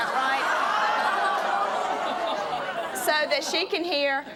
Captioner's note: audience laughing, jeering